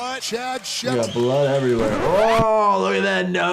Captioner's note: tape scratching